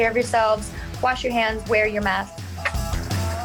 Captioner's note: smooches